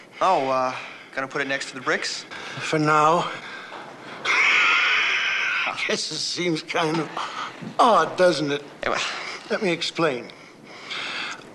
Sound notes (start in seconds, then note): 4.2 laughing